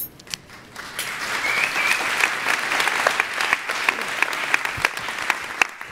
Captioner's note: applause